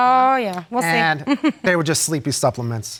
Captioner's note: chuckles